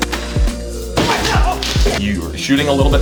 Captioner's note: wall being kicked; case being smashed